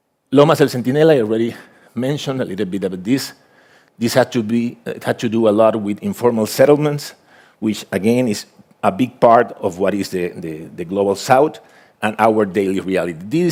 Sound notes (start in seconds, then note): none